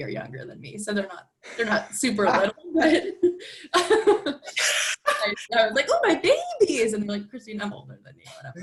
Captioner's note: laughter